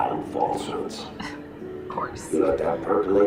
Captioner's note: laughs